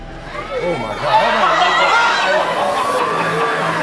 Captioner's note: cheering and screaming; uplifting music